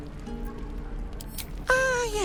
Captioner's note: relaxed guitar, background music; click